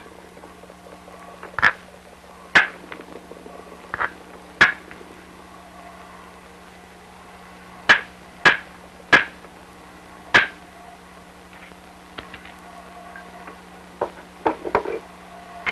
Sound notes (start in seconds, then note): 1.9 sound of hammering rock